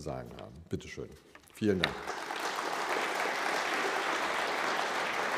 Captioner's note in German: Publikum klatscht